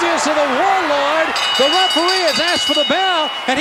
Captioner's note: bell ringing